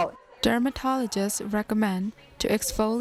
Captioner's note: voiceover